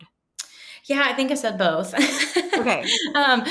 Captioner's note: laughing